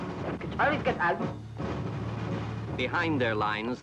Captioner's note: man speaks in German